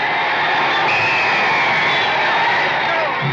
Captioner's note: whistle blows